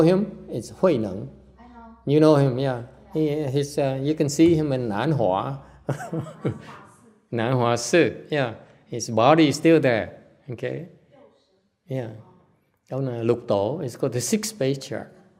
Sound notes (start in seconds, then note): 5.8 laughter